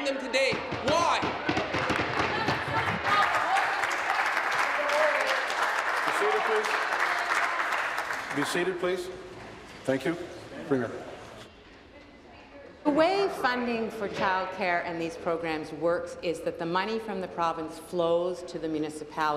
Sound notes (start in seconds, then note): 5.0 applause